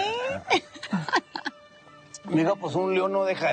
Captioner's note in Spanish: Risas